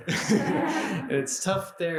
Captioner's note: questioner and audience laughing